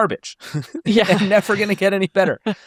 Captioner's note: chuckles; laughs